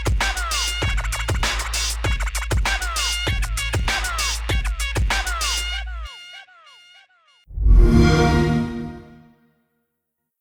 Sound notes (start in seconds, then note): 7.5 xbox sound